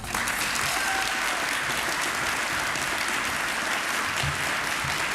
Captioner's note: applause